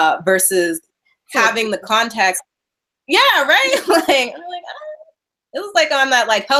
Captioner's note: laughing